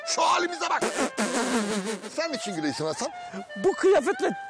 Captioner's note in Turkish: Gülüyor